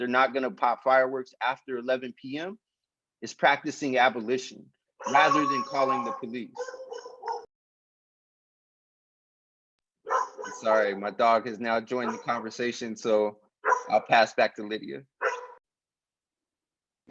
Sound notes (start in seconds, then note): 6.5 dog barking